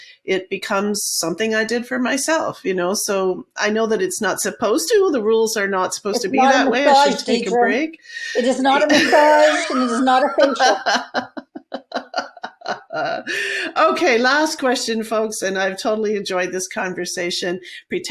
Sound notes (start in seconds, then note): 10.8 laughing